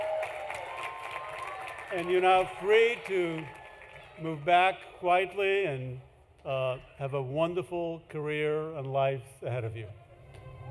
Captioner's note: applause